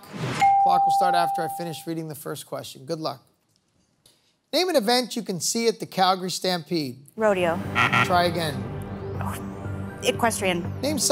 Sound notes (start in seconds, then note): 7.6 buzzer sounds